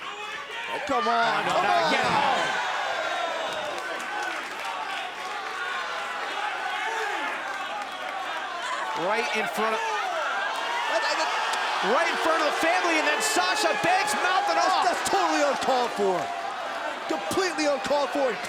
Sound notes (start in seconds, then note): 0.0 crowd cheering; 0.0 crowd chatter; 7.6 crowd cheering; 8.8 crowd chatter